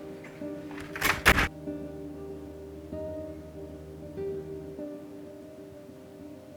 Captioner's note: slow music; door slams